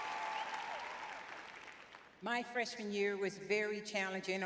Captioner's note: audience cheering